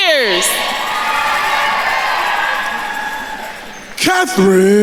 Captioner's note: attendees cheering